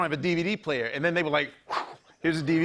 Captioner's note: whooshes